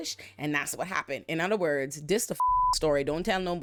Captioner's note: beep